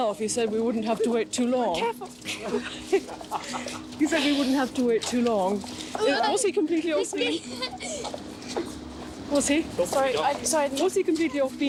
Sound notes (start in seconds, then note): 2.2 man laughs; 6.9 child laughs